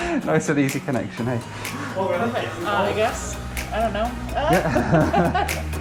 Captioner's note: both laugh; both laugh